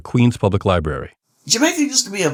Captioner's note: soundbite of archived recording